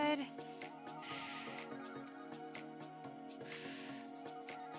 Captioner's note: exhaling deeply